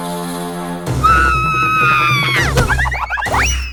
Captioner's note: battle cry; grunts; loud crash